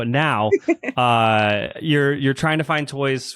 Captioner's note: laughs